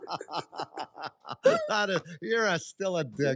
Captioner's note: laughter